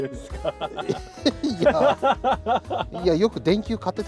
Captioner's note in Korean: 놀라서 웃음만 나옴